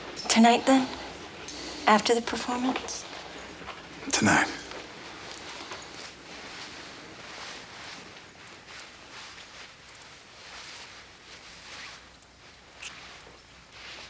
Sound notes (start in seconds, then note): none